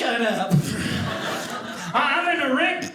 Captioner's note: audience laughing